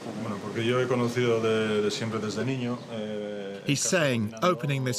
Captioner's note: speaks spanish